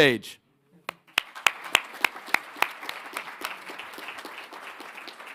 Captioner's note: audience clapping